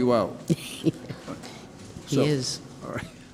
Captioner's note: laughs